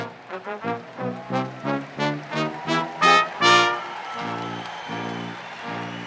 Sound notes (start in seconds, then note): 0.0 crowd cheering; 0.0 upbeat orchestral music